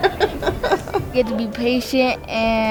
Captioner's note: laughing